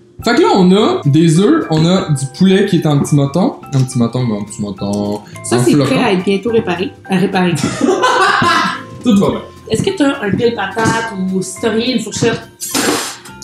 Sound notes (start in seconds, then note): 7.6 laughs